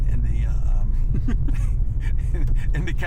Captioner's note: laughs